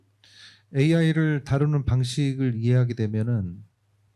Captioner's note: speaking korean